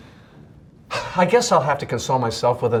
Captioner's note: sighs